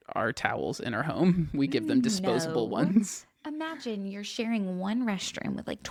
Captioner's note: laughs